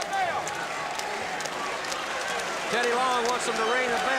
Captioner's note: crowd chatter